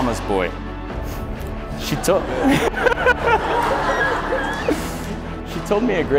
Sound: laughter

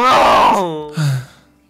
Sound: sighs

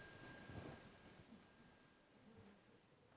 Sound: bell rings

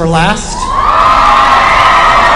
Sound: applause

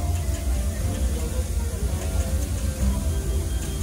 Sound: people chatting, engine idling

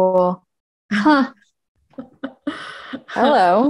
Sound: chuckling

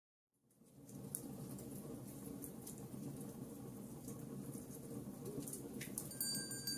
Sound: fire crackling; bell chimes

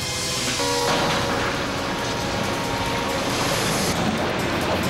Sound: train horn blares

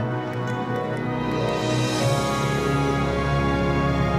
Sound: none

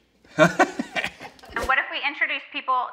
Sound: laughing

